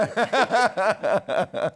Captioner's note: laughter